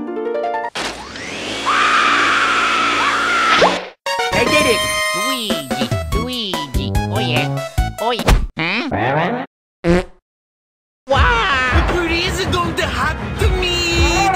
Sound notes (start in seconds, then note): 3.3 fwoop; 9.7 pfft